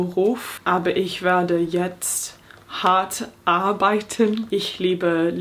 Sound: speaking in foreign language

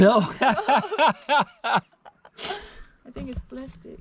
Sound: laughing

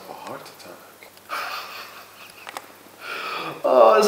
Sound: Ray laughs in amusement

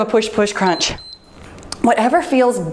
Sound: timer beeps

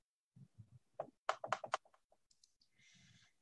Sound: clicking noises

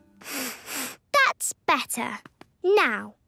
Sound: sniffs

